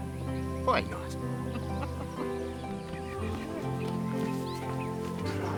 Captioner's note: birds chirping